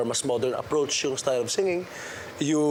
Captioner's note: none